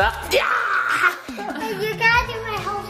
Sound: yells

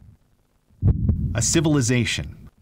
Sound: heartbeats

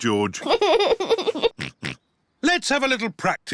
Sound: giggles and oinks

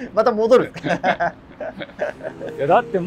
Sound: laughing

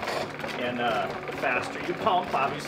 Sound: lathe roaring

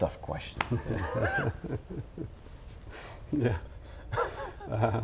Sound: both laugh

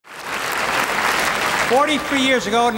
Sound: crowd claps

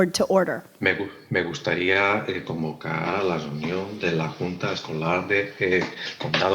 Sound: translator speaking in foreign language

